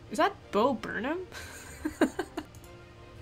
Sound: laughs

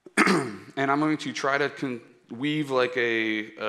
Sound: clearing throat

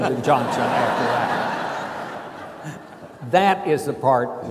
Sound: laughing

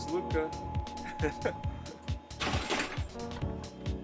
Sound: laughing

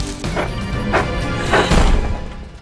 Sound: gasps

